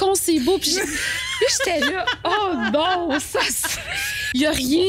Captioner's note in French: rires